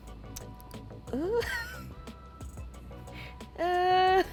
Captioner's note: laughs